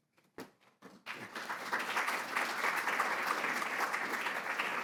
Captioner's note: audience applauds